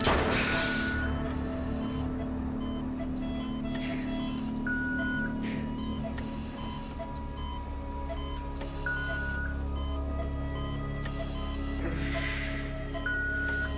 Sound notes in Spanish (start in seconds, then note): 0.0 Disparo; 2.5 Sonido de la telemetría